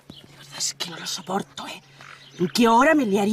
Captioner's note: whispering